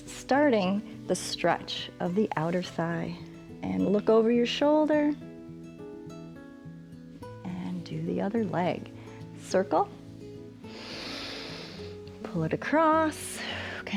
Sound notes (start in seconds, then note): 10.6 inhales; 13.2 exhales